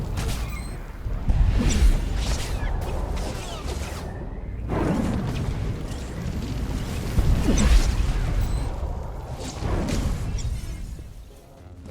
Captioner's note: explosion